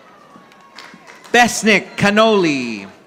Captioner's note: audience applauding